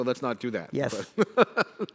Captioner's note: laughs